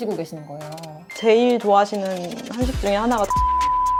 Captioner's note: beep sound